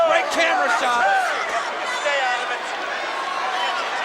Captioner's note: crowd shout